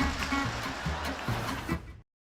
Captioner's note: audience laughter